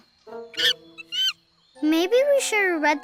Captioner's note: monkey squeaks